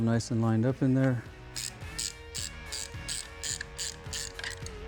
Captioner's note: scraping